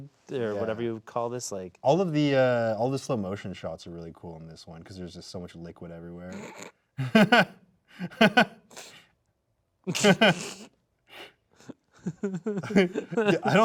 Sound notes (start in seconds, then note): 7.0 snickering; 7.4 laughing; 9.9 both laughing